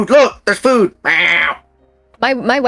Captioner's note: cat meowing